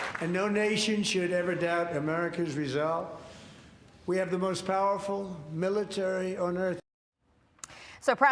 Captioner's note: applause